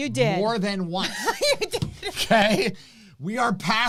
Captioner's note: laughing